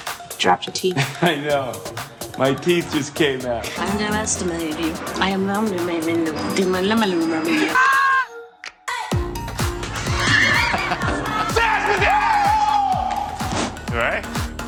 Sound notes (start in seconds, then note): 5.5 speaks gibberish; 7.7 Robbie shouts; 10.1 both laughing; 11.4 McGregor screams theatrically; 11.5 Messina shouts